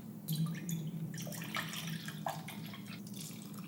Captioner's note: liquid pours